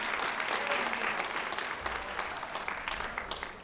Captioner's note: applause